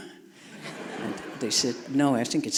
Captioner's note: audience laughing